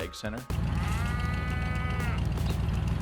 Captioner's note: cow moos